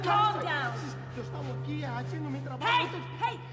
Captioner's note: man speaks foreign language